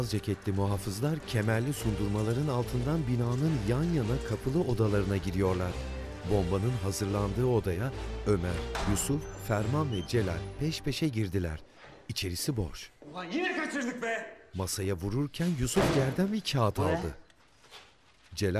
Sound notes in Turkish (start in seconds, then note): 0.1 Müzik - Gerilim; 8.6 Kapı açılma sesi; 15.8 Masaya vurma sesi